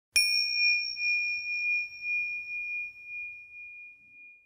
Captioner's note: bell chimes